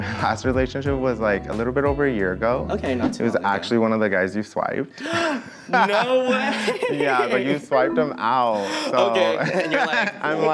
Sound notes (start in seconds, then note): 4.9 gasps